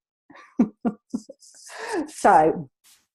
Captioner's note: laughs